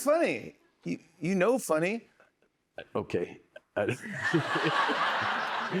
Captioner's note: laughs